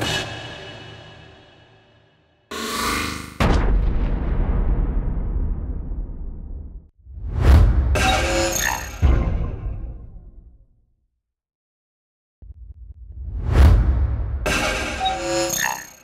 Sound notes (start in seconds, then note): 3.4 boom!; 6.8 swoosh!